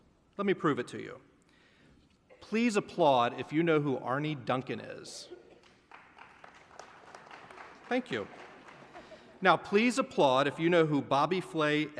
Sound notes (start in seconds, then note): 5.5 applause; 8.6 laughter